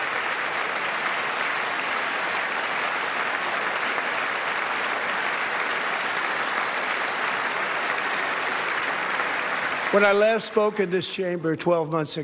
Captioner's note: applause